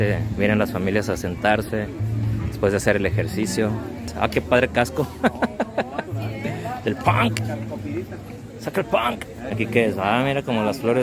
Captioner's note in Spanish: risas